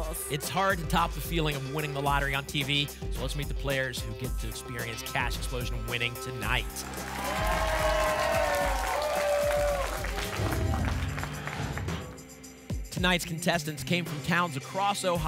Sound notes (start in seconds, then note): 6.6 applause and cheering; 10.3 whoosh